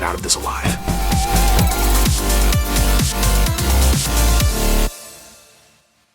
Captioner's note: uplifting music; door banging